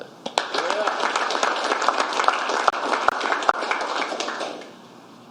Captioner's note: applause